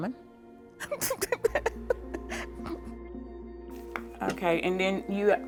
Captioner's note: laughing